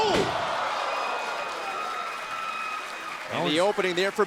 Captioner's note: crowd cheering